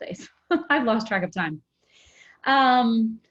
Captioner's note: laughs